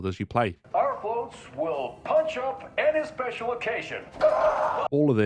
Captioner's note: karate scream